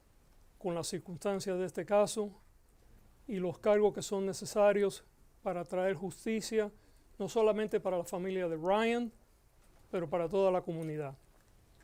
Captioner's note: Gascon speaking Spanish